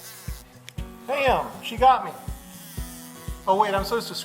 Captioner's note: wasp buzzing